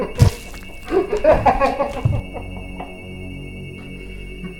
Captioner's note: clown laughing; ominous music